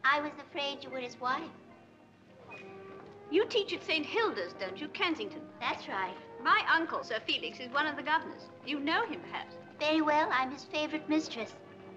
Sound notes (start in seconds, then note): none